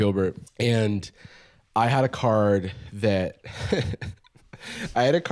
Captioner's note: laughs